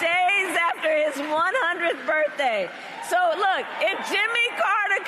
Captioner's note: cheering and applause